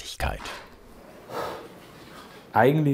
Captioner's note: blowing